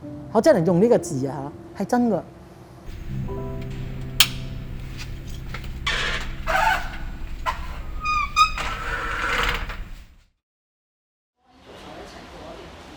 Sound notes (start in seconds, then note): 2.9 soft piano music stops; 2.9 click of light switch, metal door closing